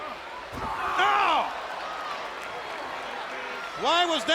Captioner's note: Bobby yells